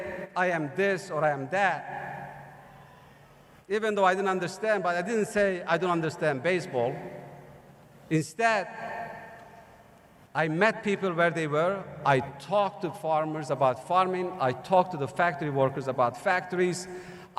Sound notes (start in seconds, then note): none